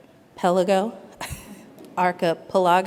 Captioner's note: chuckles